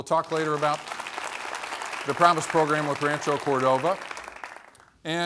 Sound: applause

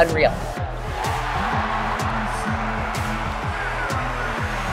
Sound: audience cheering

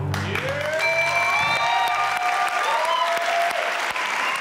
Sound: audience clapping and cheering; tone dinging

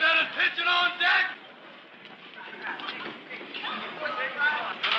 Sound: student commotion

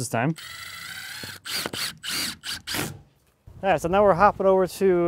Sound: drill whirs

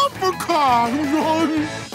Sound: laughing

